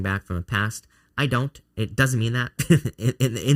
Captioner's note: chuckling